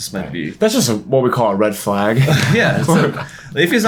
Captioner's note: chuckles